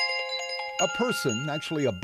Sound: ring, ring

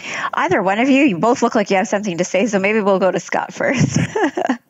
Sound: laugh

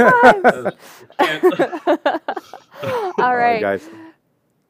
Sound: laughter

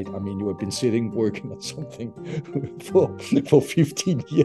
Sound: chuckles

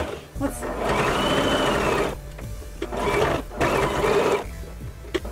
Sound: machine buzzing

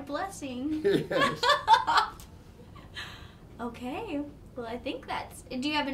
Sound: laughing

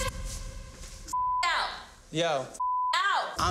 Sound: beep

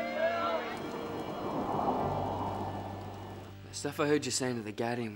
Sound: wind howling

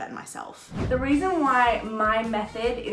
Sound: air whooshing

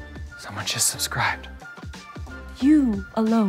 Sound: whispered

